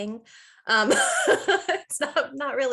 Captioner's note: laughing